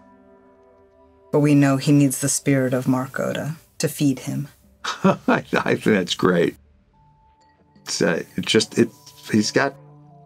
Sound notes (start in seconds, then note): 4.8 chuckling